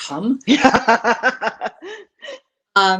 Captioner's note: laughs